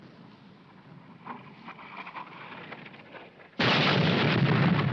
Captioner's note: wind rustling; bomb exploding